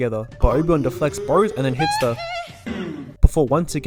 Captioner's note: hee hee